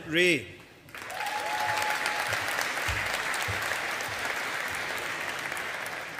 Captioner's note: audience applauding